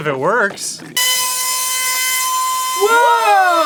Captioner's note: blasted high pitched buzzing